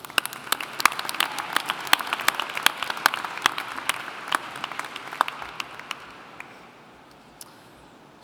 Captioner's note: applauding